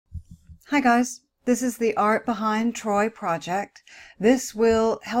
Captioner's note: voiceover